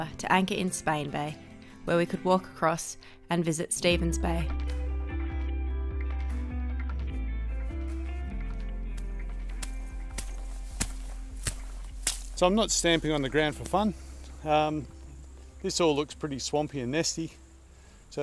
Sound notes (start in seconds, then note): 7.6 relaxing music; 8.0 feet stamp